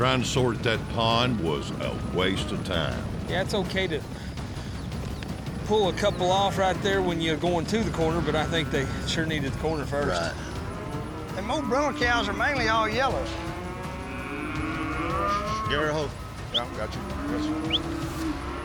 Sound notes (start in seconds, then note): 13.0 cattle mooing, whistling